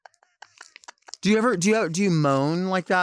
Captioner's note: Chelsea chuckling